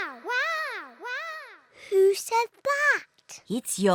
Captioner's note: peppa's voice echoes around mountains